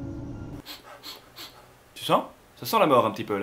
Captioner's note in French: Reniflements